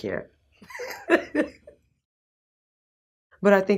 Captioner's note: laughs